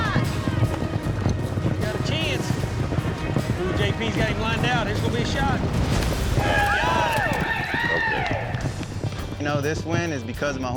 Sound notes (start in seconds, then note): 0.1 hoofbeats; 6.4 cheering